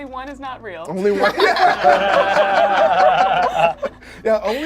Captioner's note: group laughs; laughs